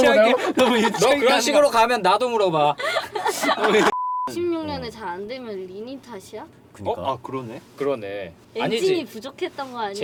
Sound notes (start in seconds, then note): 2.8 laughter